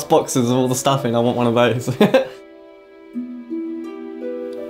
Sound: laughs

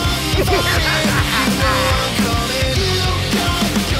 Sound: insane laughter

